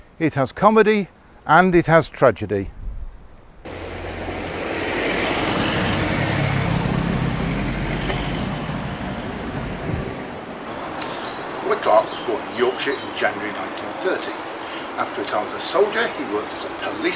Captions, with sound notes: it has comedy and it has tragedy. [Sound of traffic passing] Roy Clark was born in Yorkshire in January 1930. After a time as a soldier he worked as a policeman, teacher,